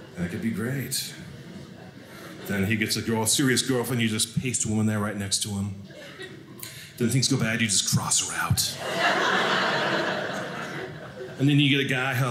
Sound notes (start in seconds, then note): 8.7 audience laughing